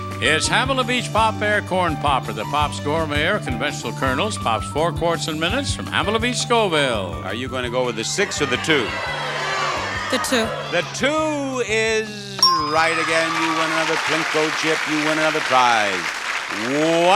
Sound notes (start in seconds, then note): 9.2 audience yelling; 12.5 audience applauding